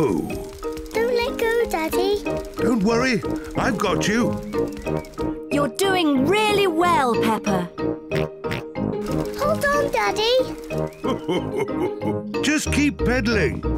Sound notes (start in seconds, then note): 7.2 snorting; 10.9 laughs